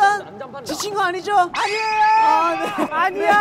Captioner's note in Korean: 활력이 넘치는 응원단